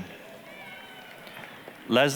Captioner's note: applause, cheering